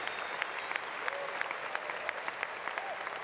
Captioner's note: applause